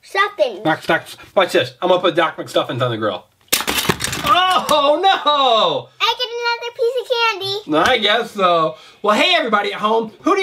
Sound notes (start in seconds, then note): 3.5 pieces crash